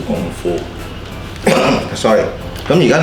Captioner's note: cough